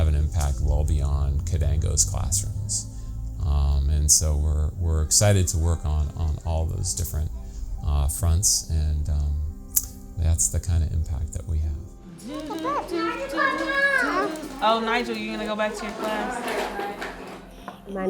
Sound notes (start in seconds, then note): 12.3 shouting; 12.3 singing